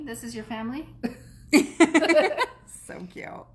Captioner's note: laughs